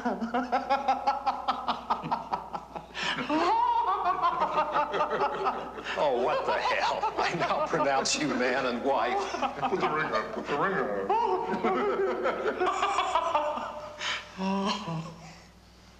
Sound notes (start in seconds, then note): 0.9 laughing